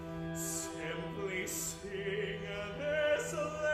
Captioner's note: none